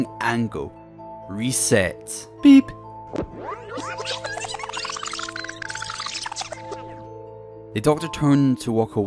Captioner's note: beep and Rewinding sounds